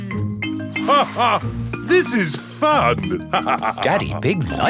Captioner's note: laughs